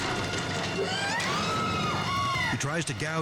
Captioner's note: dramatic music continues; staff member screaming